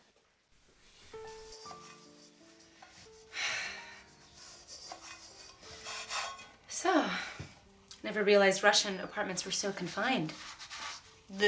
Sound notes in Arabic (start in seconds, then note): 1.9 موسيقى خفيفة; 3.5 تنهد